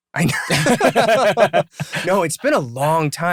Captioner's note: laughter